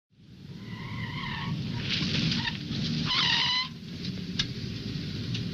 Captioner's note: car breaks screeching